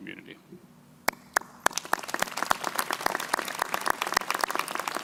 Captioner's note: crowd applauding